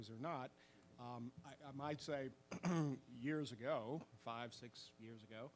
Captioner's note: clears throat